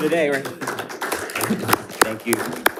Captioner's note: audience clapping